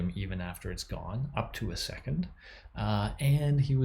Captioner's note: none